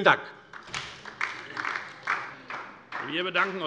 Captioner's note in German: Beifall DIE LINKE